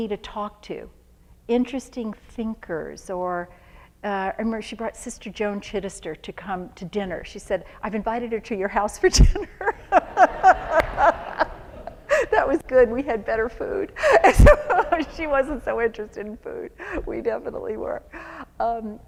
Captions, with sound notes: to talk to interesting thinkers or-- I remember she brought Sister Joan Chittister to come to dinner. She said I've invited her to your house for dinner. [LAUGHTER] That was good. We had better food. She wasn't so interested in food. We definitely were.